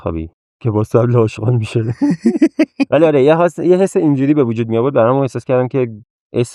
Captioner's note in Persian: خنده